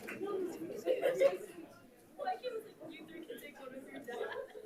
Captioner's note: light chatter